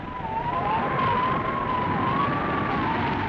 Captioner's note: wind howling